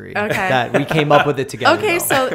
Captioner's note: laughter